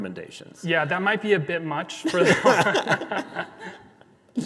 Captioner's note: both laughing